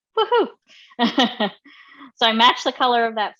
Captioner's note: laughs